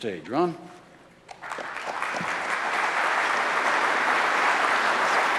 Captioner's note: applause